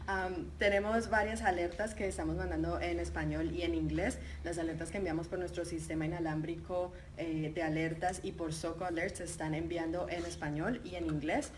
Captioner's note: speaking in Spanish